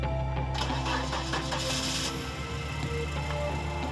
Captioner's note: car engine starts